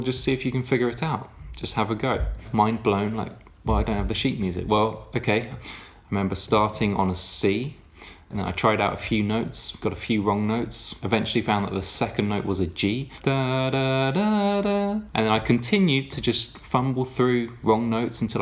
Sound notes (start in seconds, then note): 13.2 humming notes